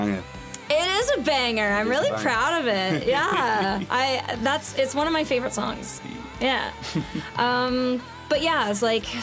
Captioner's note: laughs